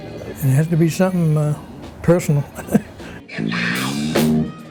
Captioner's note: chuckles